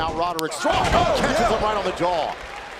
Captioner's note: crowd chatter